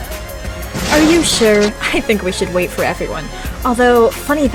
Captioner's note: crash